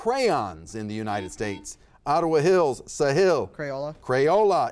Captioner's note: buzzer buzzes